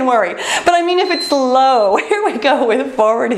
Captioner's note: timer beeps